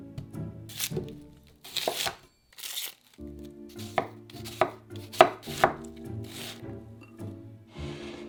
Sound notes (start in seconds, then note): 0.8 onion paper rustling